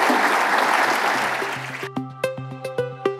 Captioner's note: applause